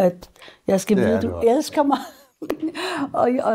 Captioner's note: chuckles